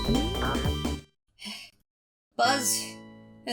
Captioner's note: victorious music; breathes heavily